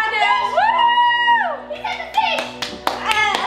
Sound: cheers

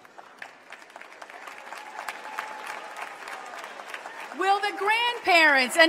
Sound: applause

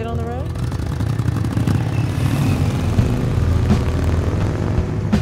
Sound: motorcycles starting and music playing

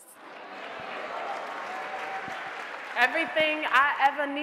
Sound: audience applauding

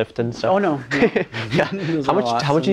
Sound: laughing

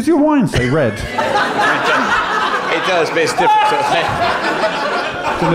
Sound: laughter

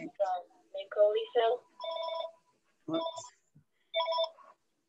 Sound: phone ringing

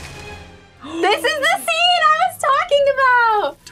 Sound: gasps

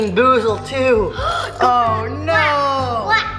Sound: gasps

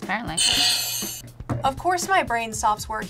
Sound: bell rings

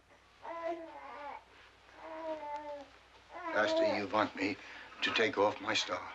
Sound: baby softly cooing

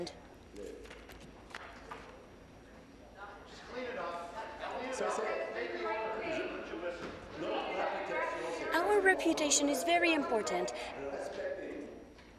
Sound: speaking in french

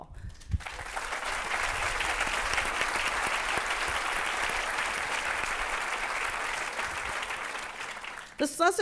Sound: applause

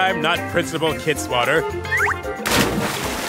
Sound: splash

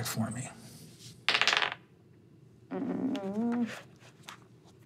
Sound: dice rolling

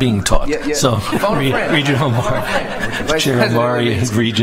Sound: laughter

